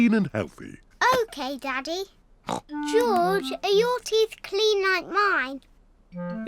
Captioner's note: snorts